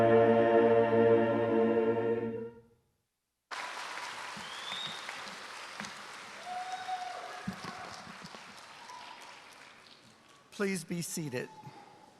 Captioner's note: applause